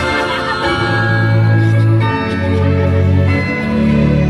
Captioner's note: clock chiming